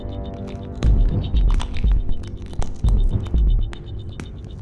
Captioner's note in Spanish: huesos rompiéndose